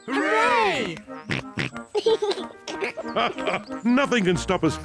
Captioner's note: snorts and giggles; laughs